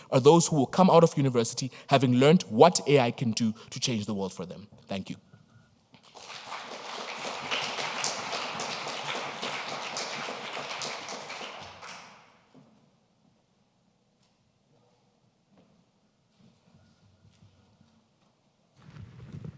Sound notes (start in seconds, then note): 6.0 audience applauding